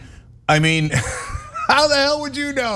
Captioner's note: laugh